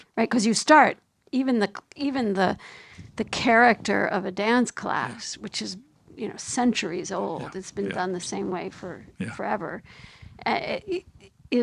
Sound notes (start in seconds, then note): none